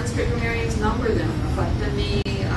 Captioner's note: non-english